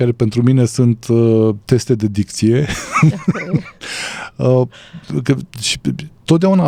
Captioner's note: laughter